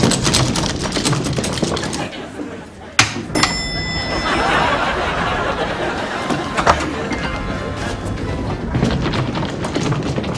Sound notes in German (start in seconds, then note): 3.3 Klingel läutet